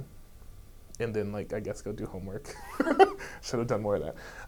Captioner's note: laughs